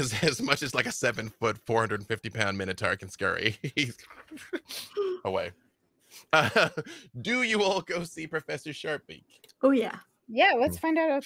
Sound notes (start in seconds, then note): 6.3 laughs